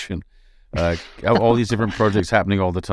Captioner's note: laughing